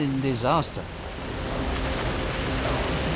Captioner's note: crashing rock